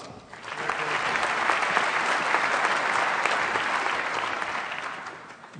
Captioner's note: applause